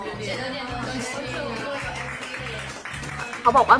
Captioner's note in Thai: ปรบมือๆ